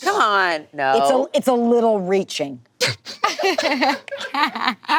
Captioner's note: group laughing